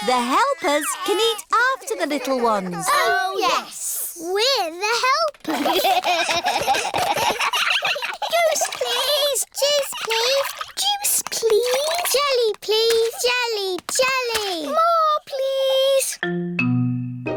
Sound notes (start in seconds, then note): 5.4 all giggling